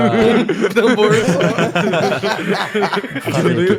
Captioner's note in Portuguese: Risadas